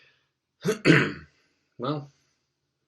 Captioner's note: clears throat